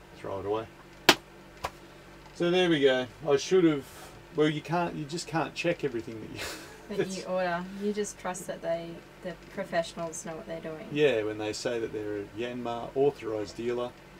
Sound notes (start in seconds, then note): 6.3 laughs